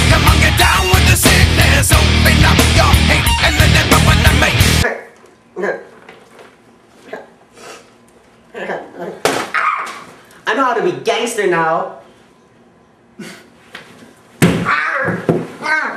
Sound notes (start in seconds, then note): 4.8 nerd chuckling; 14.3 clonk